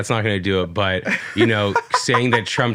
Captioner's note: laughs